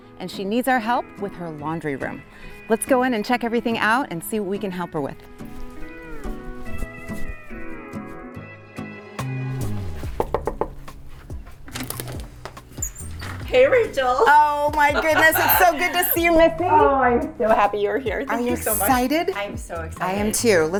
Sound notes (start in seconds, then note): 6.8 light music; 10.0 knocking